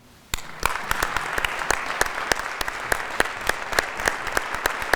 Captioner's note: audience applauding